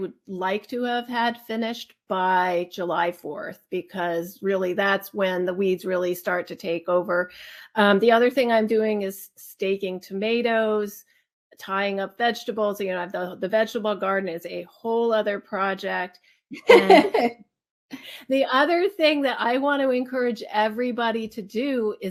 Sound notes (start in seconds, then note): 16.6 laughs